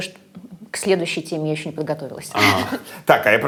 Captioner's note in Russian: смеётся